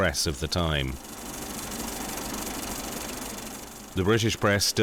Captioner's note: film projector clicking